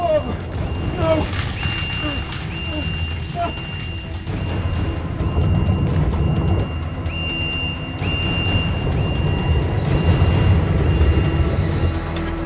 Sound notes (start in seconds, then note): 0.1 alarm blaring continues; 0.1 suspenseful music continues; 5.1 water burbling; 8.5 suspenseful music rising